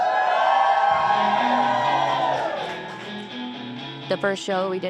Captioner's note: crowd cheering